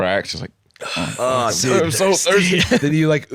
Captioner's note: wheezing